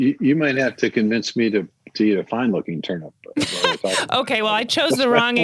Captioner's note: laughs